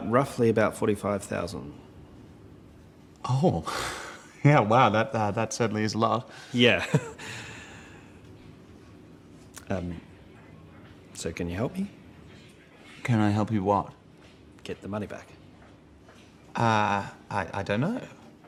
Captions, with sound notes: - Roughly about 45,000. - Oh, yeah, wow, that certainly is a lot. - Yeah. (chuckles) So can you help me? - Can I help you what? - Get the money back. - Oh, I don't know.